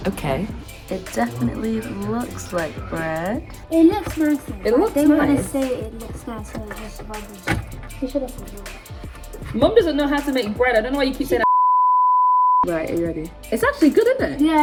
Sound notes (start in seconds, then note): 11.4 beeping